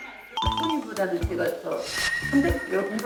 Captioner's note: continuation of endless chatter